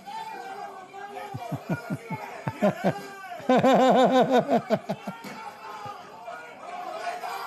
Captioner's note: Ketawa